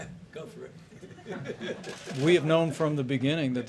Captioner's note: laughter